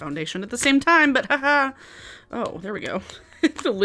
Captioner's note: chuckles